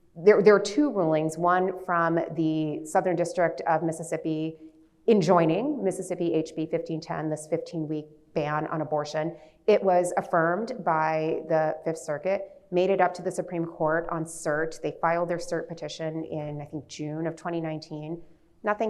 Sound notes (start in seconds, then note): none